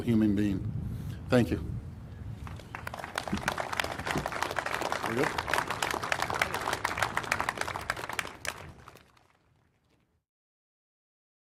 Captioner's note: applause